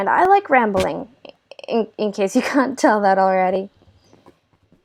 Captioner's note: laugh